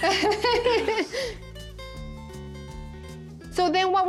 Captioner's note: Pati and Vivian laugh